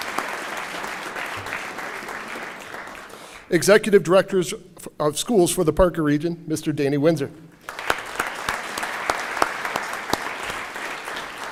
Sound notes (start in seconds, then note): 0.0 applause; 3.5 applause; 10.5 applause